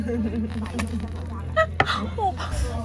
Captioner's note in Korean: 콰삭